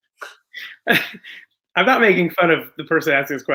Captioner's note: chuckles